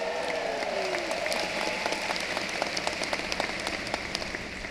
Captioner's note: cheering and applause